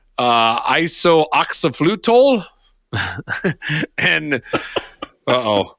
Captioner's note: laughing